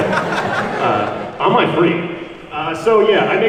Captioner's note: laughs